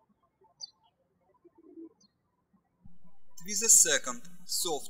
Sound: birds chirping

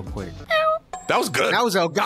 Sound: meows

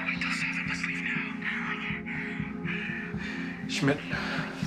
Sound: breathing heavily

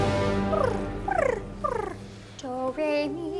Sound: Tuesday purring

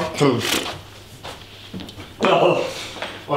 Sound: clears throat

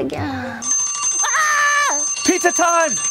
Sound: alarm

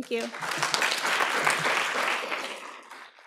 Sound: applause

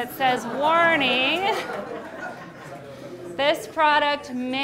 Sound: audience laughing

